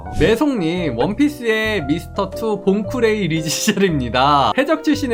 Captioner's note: voiceover